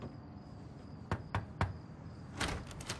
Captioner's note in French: Knocks on door